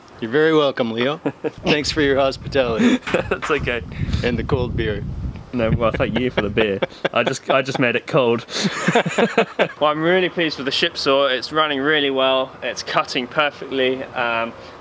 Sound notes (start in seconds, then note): 9.0 they laugh